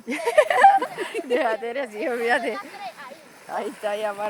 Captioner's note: laughter